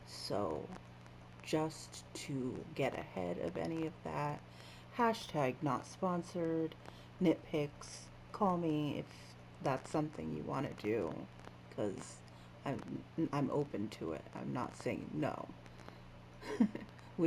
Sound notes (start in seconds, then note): 16.4 chuckles